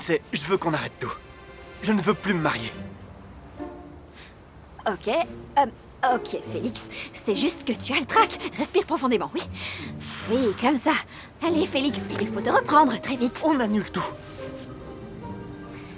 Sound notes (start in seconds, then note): 9.6 breathing deeply